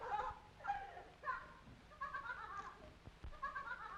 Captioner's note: laughing